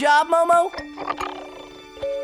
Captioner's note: chittering